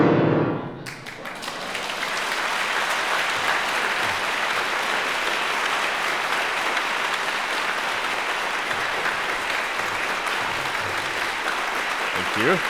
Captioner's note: applause